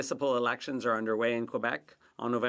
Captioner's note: speaking French